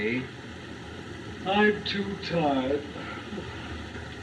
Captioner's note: yawning